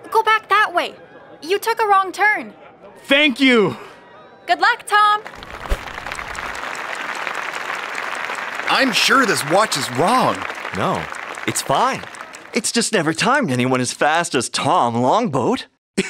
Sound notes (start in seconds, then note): 5.2 applause